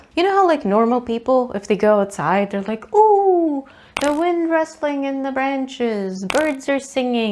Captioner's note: none